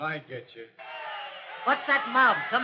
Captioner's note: commotion